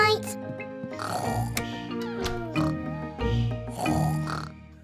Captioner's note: both snoring